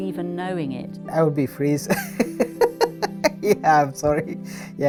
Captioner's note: laughs